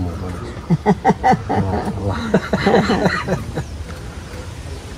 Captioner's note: laughs